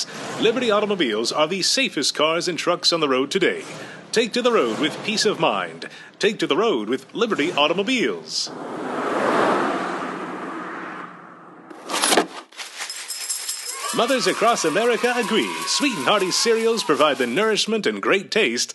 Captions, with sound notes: Liberty Automobiles are the safest cars and trucks on the road today. Take to the road with peace of mind. Take to the road with Liberty Automobiles. (sound of car driving) (sound of cereal pouring out of box and kids cheering) Mothers across America agree: Sweet ‘N Hearty Cereals provide the nourishment and great taste